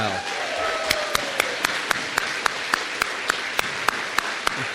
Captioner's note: applause